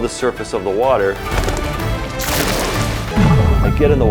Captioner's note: wings flapping; water splashing